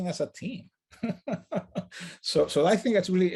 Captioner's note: laughs